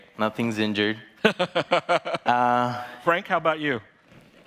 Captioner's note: laughing